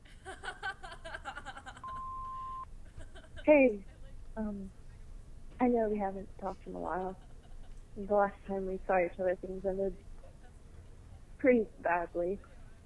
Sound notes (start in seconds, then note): 0.0 laughing; 1.8 voicemail beep